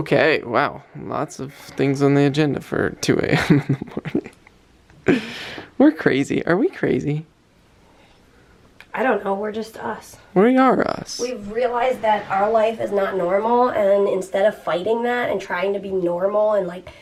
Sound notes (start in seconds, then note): 3.2 laughing